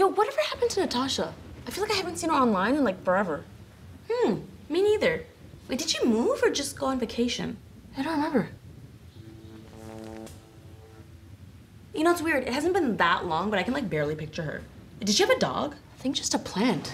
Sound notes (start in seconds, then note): 8.7 electricity buzzing